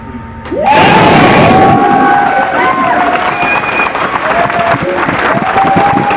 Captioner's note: applause